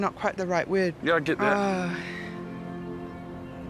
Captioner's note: sighs